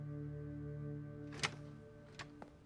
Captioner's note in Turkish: Kapı Açılıyor